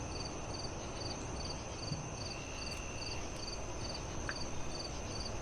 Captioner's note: crickets chirp